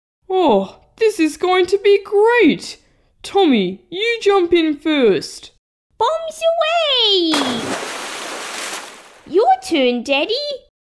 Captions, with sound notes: Oh, this is going to be great! Tommy, you jump in first Bombs away! (Splash!) Your turn, Daddy